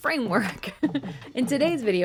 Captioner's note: giggling